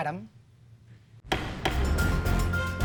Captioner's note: gavel bangs; upbeat dramatic music